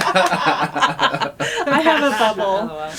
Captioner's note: laughter